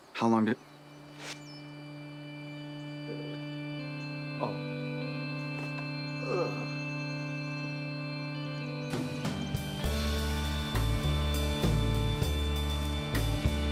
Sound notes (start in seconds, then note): 0.9 solemn organ music; 6.2 Hatfield groans